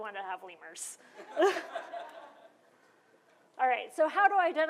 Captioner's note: laughter